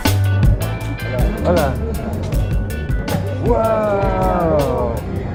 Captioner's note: speaking foreign language